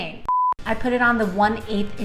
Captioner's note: beep